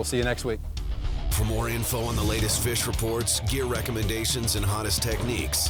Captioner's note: voiceover